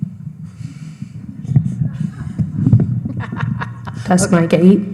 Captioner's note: laughs